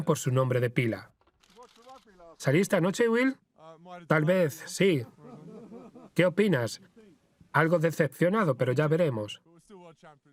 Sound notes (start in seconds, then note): 0.4 voiceover; 5.0 photographers laughing; 6.5 voiceover